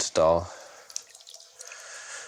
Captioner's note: rippling